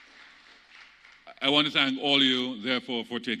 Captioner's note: applause